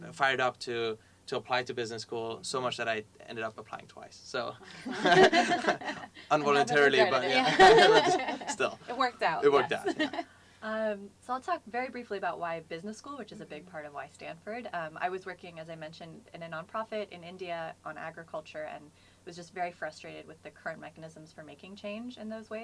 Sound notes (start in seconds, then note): 4.6 laugh